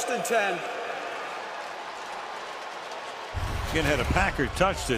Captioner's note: cheering